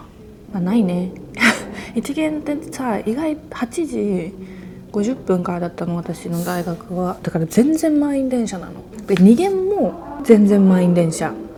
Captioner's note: laughs